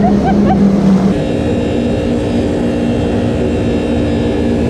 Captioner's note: laughing; jet ski roaring